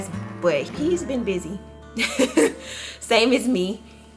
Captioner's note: laughs